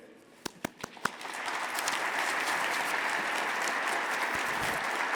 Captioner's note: audience applauding